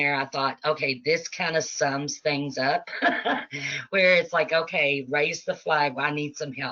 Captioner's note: laughing